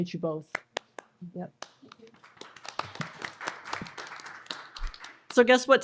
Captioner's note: applause